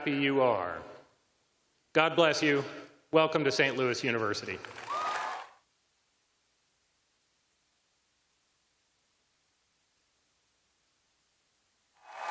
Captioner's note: cheers and applause